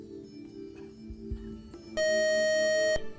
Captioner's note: beep